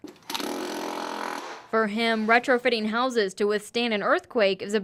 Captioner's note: drilling nats